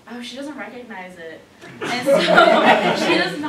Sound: laughter

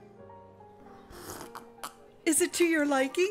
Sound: slurps

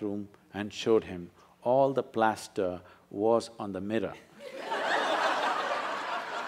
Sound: laughter

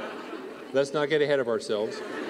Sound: laughter

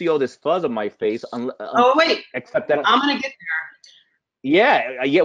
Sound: voice muffled

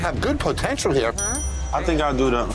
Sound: bell dings

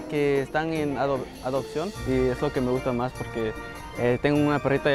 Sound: in Spanish

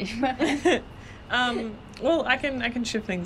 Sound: both laughing

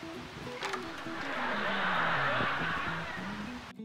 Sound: laughter

